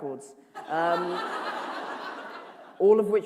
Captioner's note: laughter